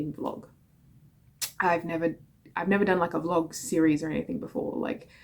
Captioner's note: smacks lips